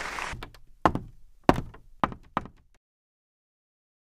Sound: footsteps

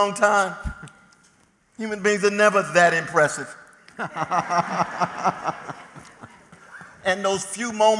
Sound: laughter

